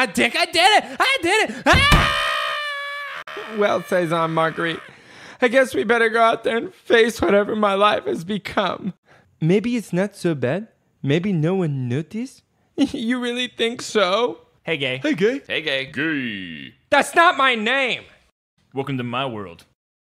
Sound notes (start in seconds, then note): 1.7 excited noise resumes